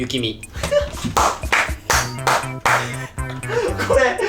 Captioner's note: laughs and applauses